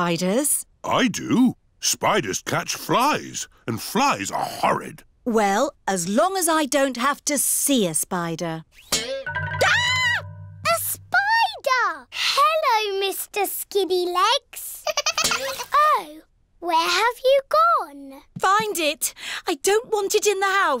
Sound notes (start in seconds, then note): 8.4 screams; 14.8 giggling